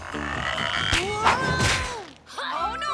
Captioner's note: boy yelling